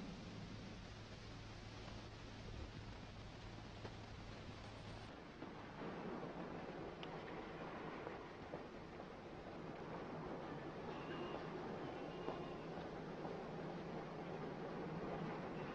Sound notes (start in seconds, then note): none